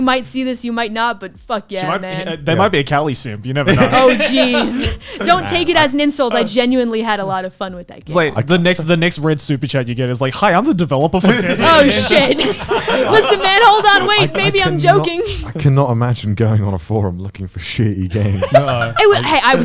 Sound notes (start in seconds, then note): 11.2 laughs